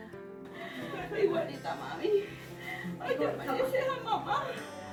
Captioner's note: laughing; in foreign language